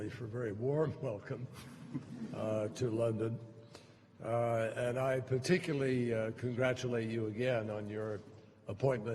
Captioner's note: laughter